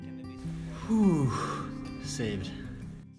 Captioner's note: heavy exhalation